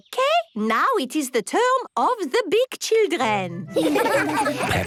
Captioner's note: laughter